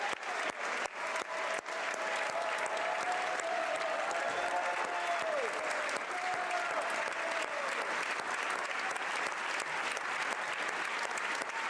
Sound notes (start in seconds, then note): 1.8 cheers; 10.9 applause